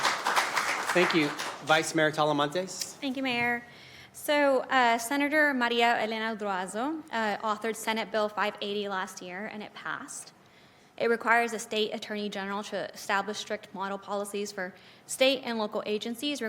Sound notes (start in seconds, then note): 0.7 crowd Noise; 2.5 applause; 2.5 crowd Noise; 3.0 applause